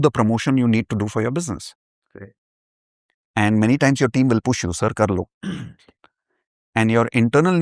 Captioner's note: clears throat